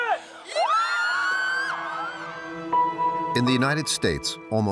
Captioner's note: cadets cheering